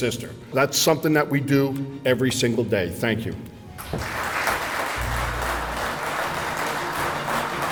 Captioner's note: clapping